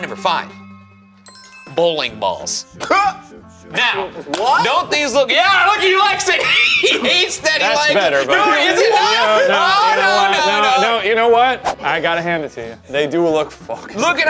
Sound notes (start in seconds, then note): 3.1 laughs; 5.9 laughs